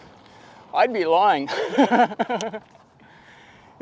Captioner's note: laughing